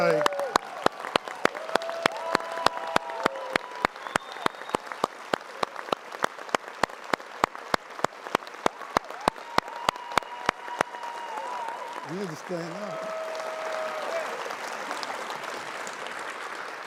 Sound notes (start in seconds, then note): 5.5 cheering and applause